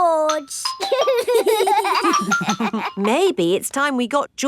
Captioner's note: giggling